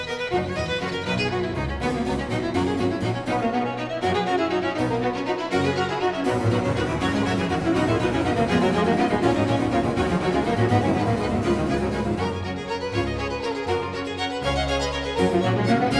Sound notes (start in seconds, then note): none